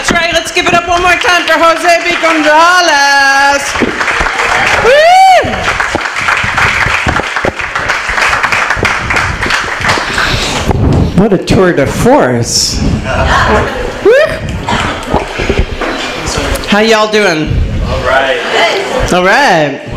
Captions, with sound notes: That's right, let's give it up one more time Jose B. Gonzalez! Whoo. [applause] What a tour de force. [audience cheers] Whoo. How y'all doing? Alright.